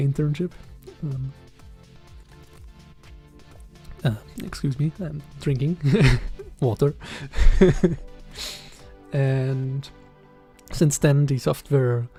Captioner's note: giggles; laughs; sniffs